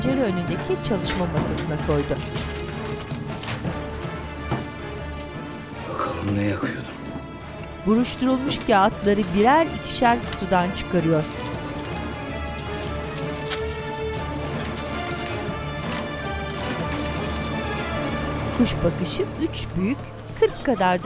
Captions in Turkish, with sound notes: (Kâğıt hışırtısı sesi) Bakalım ne yakıyordun. (Kâğıt hışırtısı sesleri) (Müzik - Gerilim) (İnleme sesleri)